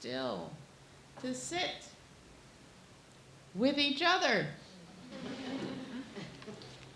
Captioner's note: laughing